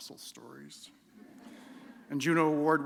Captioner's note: laughter